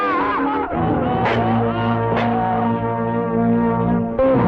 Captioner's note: Pepe maniacally laughing; glass cracking; sinister music